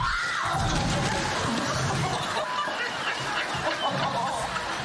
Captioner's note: screams; laughing